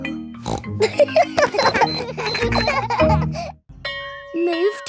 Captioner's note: snorts; kids laughing